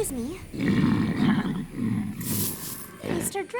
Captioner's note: grumbles